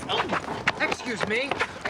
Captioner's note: groans